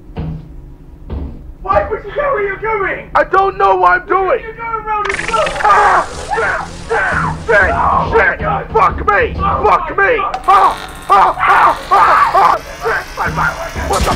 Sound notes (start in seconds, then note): 5.0 Angry Hoarding Bug Sounds; 10.3 turret Sound; 10.4 Employee #0420 and #8008 Screaming as Turret revs up; 13.5 stutters